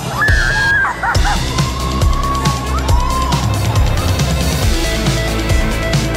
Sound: screaming; laughing

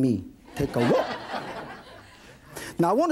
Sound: audience laughing

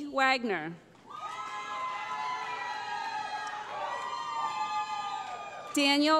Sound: cheering

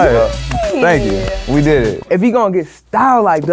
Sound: clapping

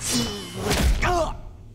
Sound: grunting

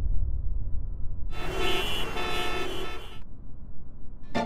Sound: traffic noises

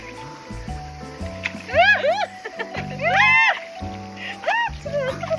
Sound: splashes water

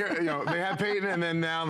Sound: laughter

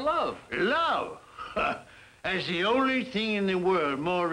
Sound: laughs

